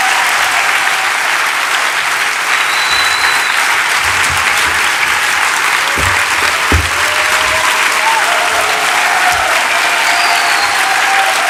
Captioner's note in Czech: Potlesk pokračuje